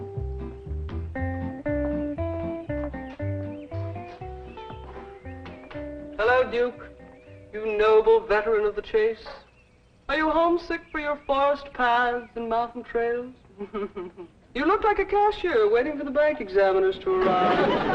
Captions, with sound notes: (doorbell rings) - Hello, Duke, you noble veteran of the chase. Are you homesick for your forest paths and mountain trails? You look like a cashier waiting for the bank examiners to arrive.